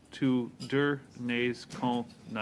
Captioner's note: speaking French